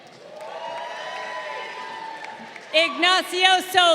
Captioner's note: crowd cheering